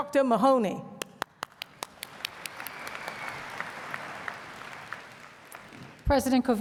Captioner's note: applause